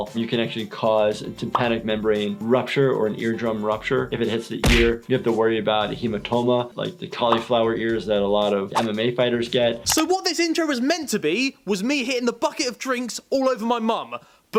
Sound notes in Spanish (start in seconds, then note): 4.6 golpe de pelota